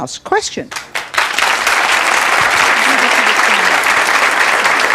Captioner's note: audience clapping